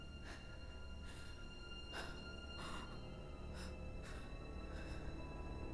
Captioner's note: gentle tense music; Linda breathing heavily